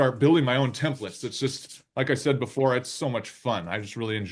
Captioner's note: palms rubbing